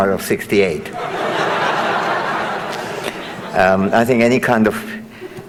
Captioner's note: audience laughing